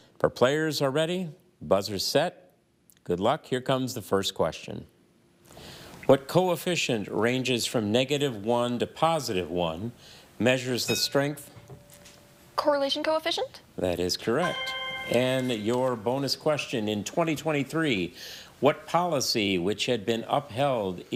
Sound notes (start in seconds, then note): 10.8 bell dings; 14.4 chime resonating